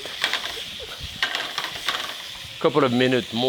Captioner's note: brussels sprouts sizzling